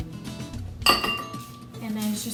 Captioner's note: bowl clanging